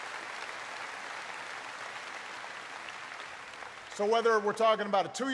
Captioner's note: applause